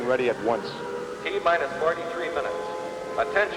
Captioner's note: man on PA